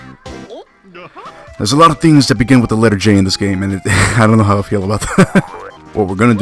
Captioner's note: laughs